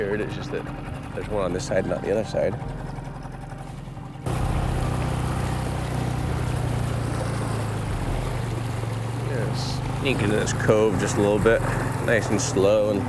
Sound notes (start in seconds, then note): 4.5 engine chugging; 4.5 water sloshing